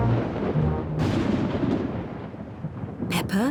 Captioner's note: thunder rumbles